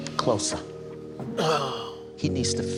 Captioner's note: exhales deeply